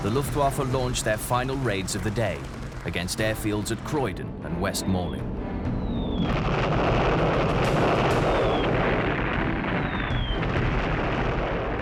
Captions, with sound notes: the Luftwaffe launched their final raids of the day against air fields at Croydon and West Malling. (bombs exploding)